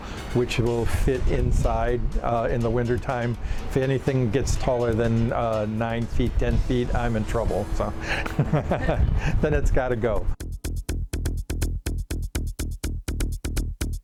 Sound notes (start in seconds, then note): 8.0 laughing; 10.2 upbeat music